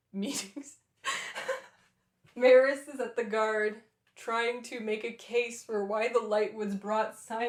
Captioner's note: laughter